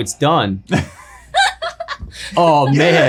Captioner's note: laughing